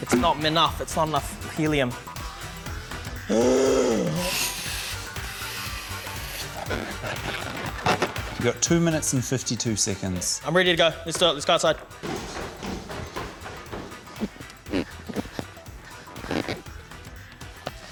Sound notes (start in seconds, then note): 3.2 groans loudly; 3.8 gas hisses; 16.0 balloons squeak